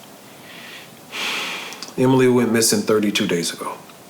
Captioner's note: sighs